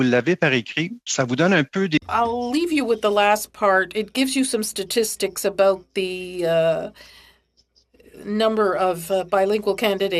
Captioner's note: speaking French